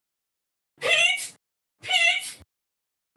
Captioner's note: Chantal screams